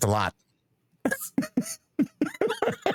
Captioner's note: laughing